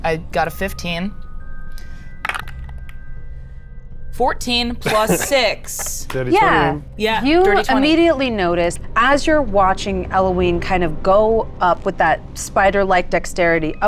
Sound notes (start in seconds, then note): 2.3 die rattles; 4.8 laughs